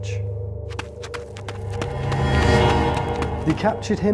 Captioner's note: dramatic crescendo; footsteps